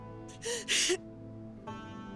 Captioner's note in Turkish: Ağlama sesi